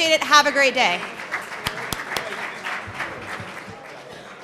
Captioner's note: applause